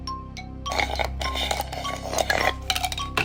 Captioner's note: slurps